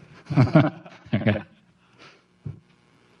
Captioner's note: laughing